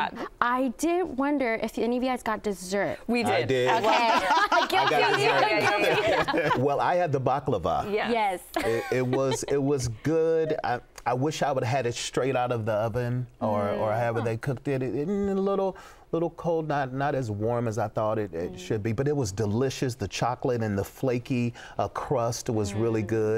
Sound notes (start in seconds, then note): 3.6 laughter